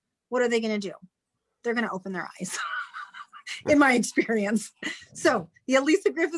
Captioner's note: chuckles